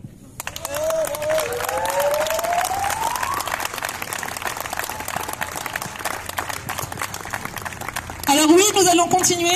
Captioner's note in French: applaudissements